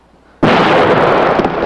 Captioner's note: explosion